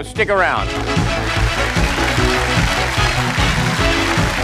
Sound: cheers and applause

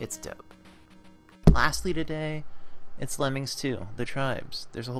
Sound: accidentally punches mic

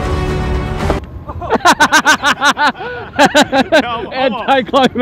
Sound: epic music; laughing

